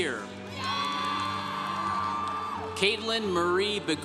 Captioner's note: congregation cheering